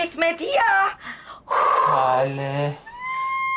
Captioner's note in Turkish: Nefes sesi